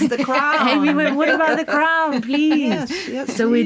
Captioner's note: laughing